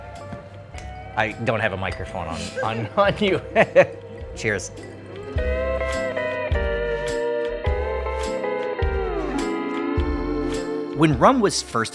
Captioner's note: laughs